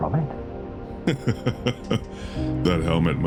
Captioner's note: laughs